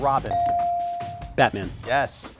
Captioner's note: buzzer chimes